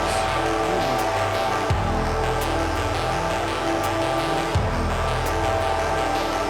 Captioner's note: crowd clamoring; spooky music